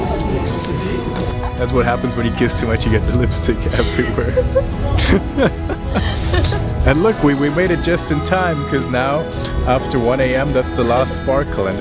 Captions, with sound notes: - That's what happens when you kiss too much, you get the lipstick everywhere. (laughs) And look, we made it just in time, 'cause now, after 1:00 AM that's the last sparkle